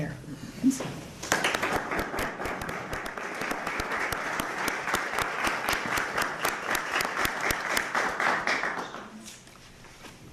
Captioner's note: clapping